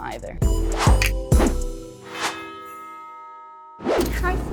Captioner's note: rhythmic music; bells